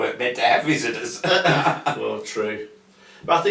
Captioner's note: chuckle lightly